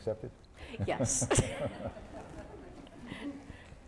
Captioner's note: laughter